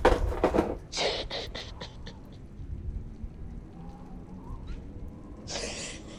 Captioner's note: sobbing